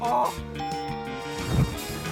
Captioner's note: ding!